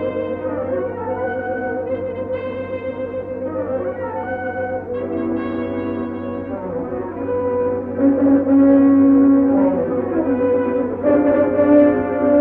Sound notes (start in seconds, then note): none